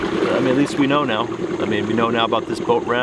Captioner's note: engine revving